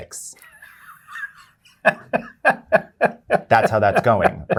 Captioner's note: laughter